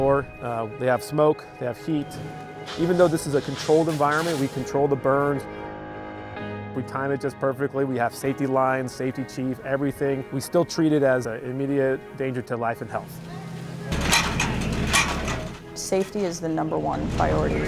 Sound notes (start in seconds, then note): 13.0 metal ladder clanging